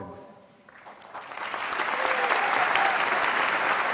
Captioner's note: applause